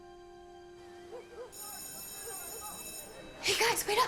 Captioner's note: birds chirping, dogs barking and school bell rings